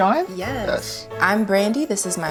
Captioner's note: in Unison